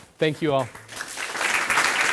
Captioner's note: applause